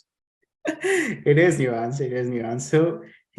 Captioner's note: chuckles